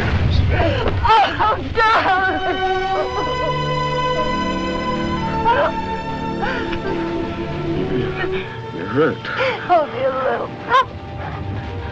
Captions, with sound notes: - Cynthia! Cynthia! - Oh, darling! [ Sobbing ] - You're--You're hurt. - Only a little. Oh!